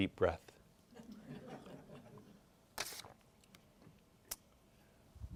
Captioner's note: group laughs